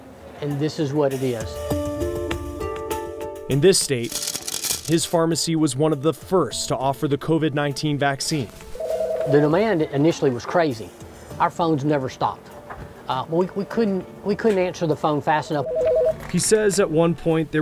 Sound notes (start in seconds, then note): 1.8 pensive music; 3.9 pills clattering; 8.7 phone rings